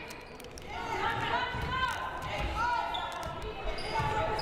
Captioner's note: crowd cheering